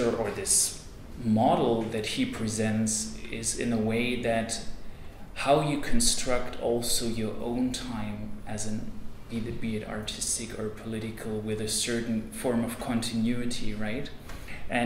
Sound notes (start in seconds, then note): none